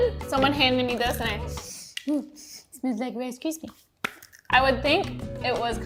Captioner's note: sniffs